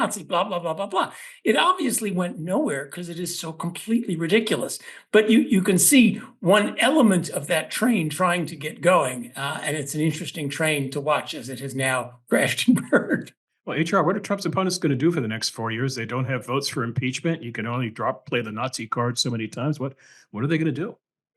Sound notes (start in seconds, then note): 12.8 laugh